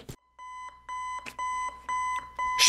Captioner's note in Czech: Beep